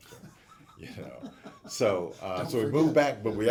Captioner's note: laughing